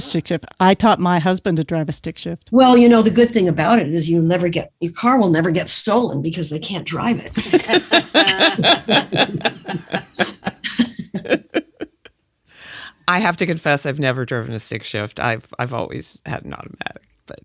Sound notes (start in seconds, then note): 7.3 chuckles; 11.1 laughs